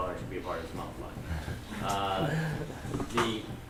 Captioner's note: laughter